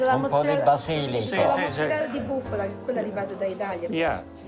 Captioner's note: speaking Italian; group speaking Italian